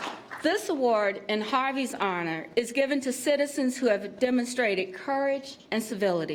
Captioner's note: applause